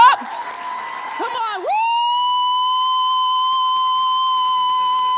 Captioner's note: audience cheering and clapping